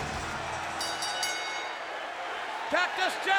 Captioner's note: bell rings